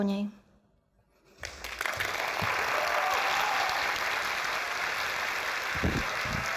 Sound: applause

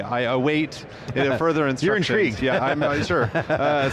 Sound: laughing

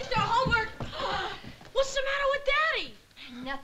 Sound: gasps

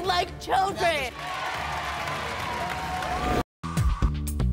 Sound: applause

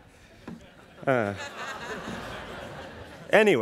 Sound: laughing; sighing; students laughing

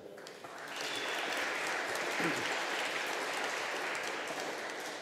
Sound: audience applauding

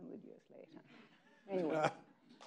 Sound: people laughing

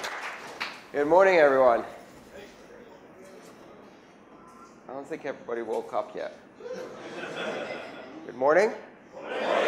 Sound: laughter

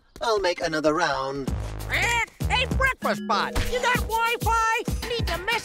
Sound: squawks

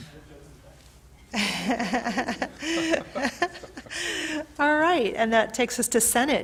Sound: laughs

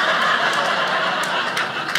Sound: audience laughing

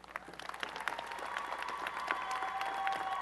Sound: applause and cheering

